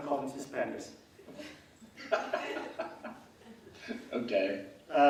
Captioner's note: laughing